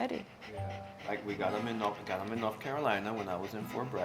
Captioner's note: out of breath